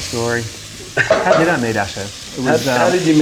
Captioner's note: laughing